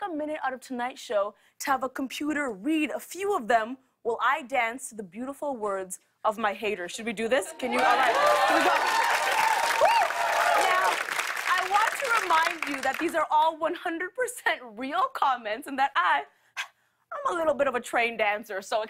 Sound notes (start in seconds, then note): 7.6 cheers and applause